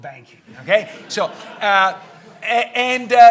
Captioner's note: audience chuckling